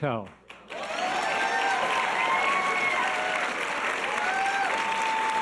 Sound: audience cheers and applause

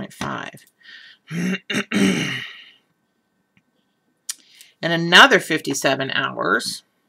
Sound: cough

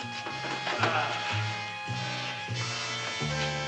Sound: grunting

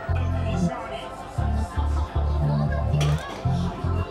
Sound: foreign language

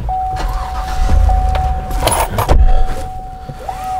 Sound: car starting

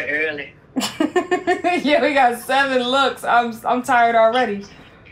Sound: laughing

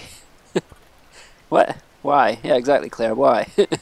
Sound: laughs

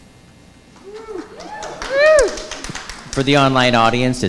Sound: audience cheering

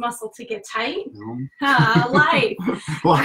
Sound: laughing

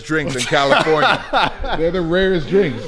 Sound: laughs

